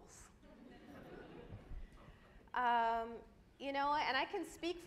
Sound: audience laughs

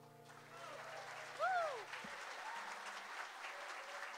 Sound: audience applauds

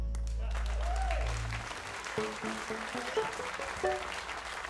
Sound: audience applauding

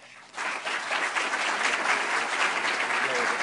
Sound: applause

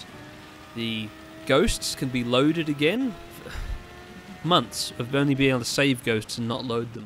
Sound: sigh

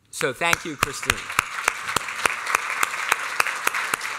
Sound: applause

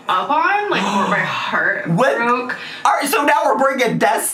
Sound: gasps

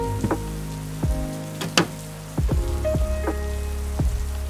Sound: thud

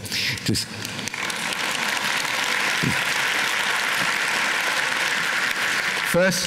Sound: applause

